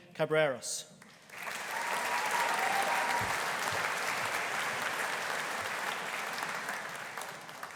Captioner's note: audience applauding; audience cheering